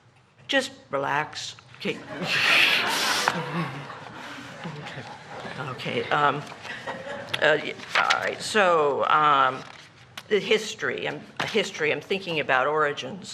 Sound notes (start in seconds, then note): 1.9 laughter